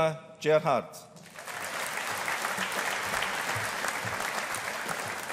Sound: audience applauding

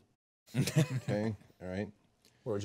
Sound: group laughing

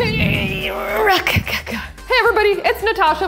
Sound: groaning

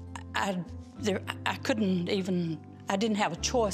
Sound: stammering

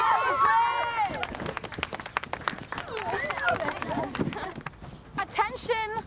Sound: applause

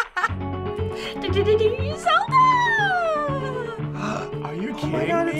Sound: laughs; hums melody; gasps

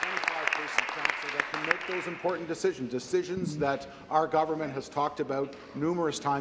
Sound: applause

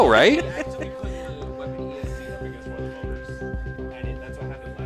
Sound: laughing

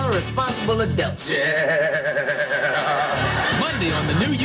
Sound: Malcolm -- voice wavering from vibrating chair

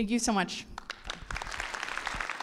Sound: audience applauding

